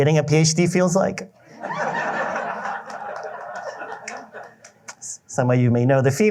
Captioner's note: laughter